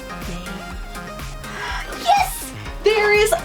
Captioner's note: whisper; gasps